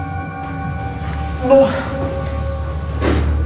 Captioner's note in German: Ächzen